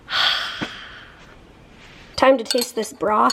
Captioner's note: inhales; exhales